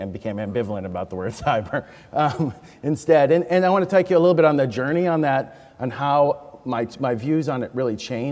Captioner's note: laughs